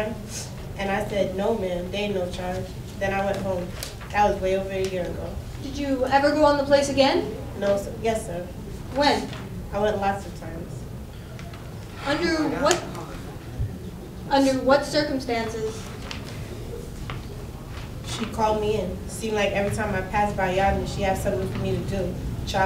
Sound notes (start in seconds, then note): 11.3 spectators chattering